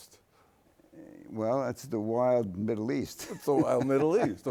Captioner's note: laughs